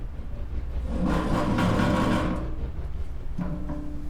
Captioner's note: metal dragging